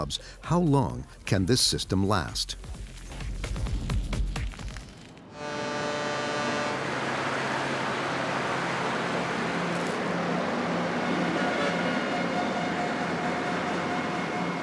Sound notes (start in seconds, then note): 5.3 traffic rushing; 5.3 truck horn honking